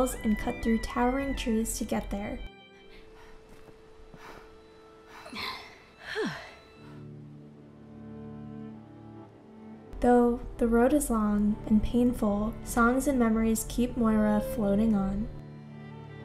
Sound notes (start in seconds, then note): 3.0 Moira gasping; 3.0 somber music